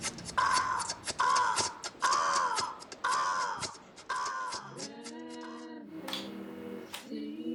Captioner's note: yelling